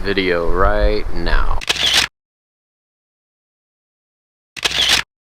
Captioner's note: camera snapping